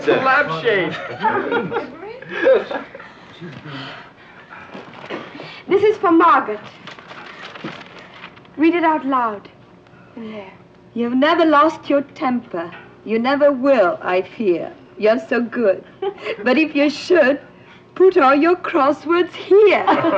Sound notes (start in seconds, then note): 1.0 woman laughing; 16.0 Anne giggling; 19.7 group laughing